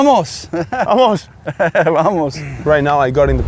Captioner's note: laughs